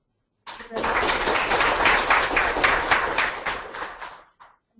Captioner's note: audience clapping